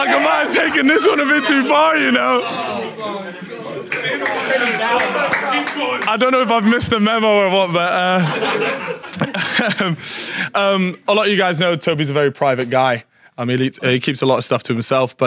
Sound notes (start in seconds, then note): 0.0 audience laughing; 4.6 man claps; 9.4 audience laughs